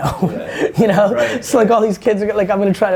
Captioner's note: laughing